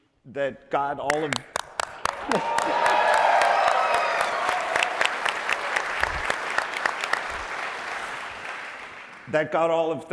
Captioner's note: applause